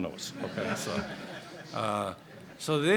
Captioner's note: laughter